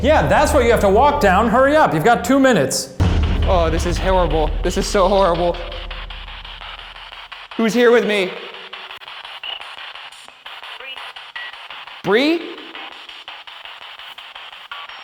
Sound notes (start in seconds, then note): 10.5 distorted speech